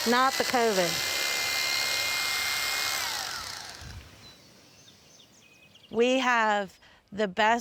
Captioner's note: tool whirs